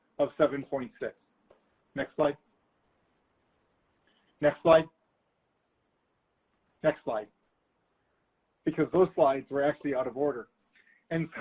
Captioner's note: chuckles